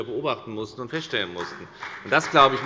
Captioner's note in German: Beifall bei der FDP